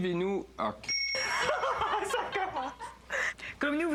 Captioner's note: bip!